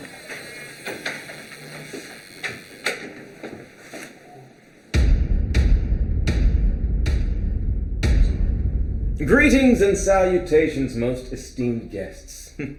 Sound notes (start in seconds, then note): 0.1 door creaks shut; 4.9 soft booming